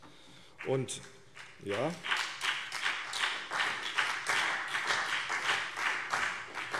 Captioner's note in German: Beifall CDU und BÜNDNIS 90/DIE GRÜNEN